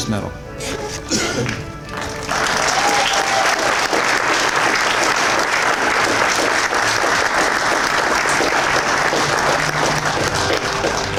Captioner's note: applause